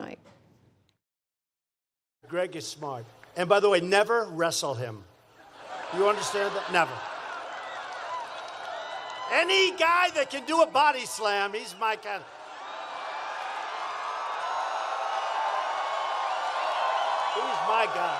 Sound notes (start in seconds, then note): 7.3 laughter; 13.4 cheering and applause